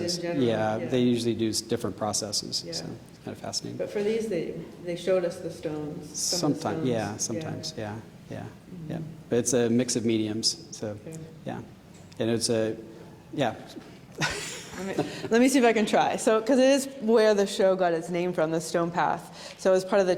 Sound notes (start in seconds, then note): 14.2 laughing